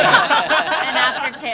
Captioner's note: all laughing